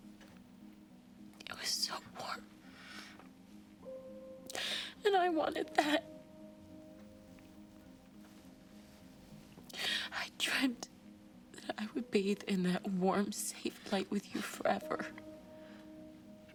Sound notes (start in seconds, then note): none